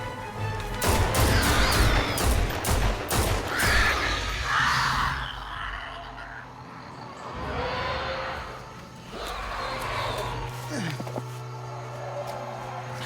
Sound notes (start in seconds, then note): 0.8 gun fires; 0.9 creature cries